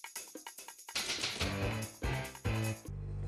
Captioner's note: typewriter clacking